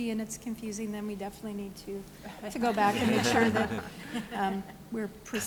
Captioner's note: laughter